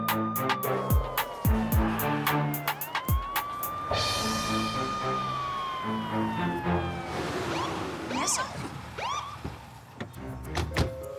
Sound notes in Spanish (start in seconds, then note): 0.0 Se oye sirena de ambulancia